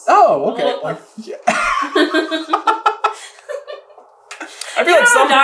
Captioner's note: mutual giggles